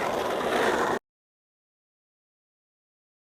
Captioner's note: sound of skateboarding